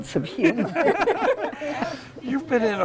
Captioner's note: laughter